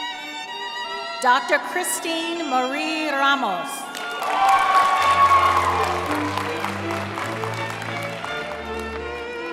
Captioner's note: cheering